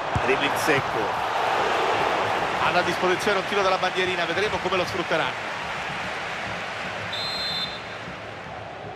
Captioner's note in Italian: Applauso